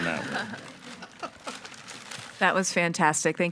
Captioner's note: group laughs